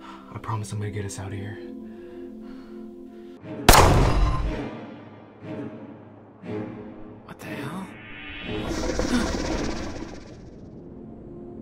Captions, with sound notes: I promise I'm gonna get us out of here. What the hell? (CREATURE snarls)